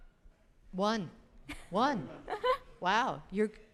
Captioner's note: chuckles